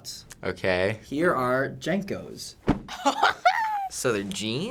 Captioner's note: laughs